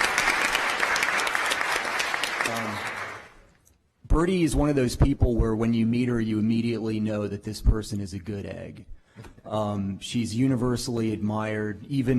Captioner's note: applause